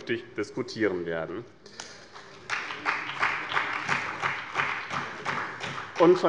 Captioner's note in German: Beifall bei dem BÜNDNIS 90/DIE GRÜNEN und der CDU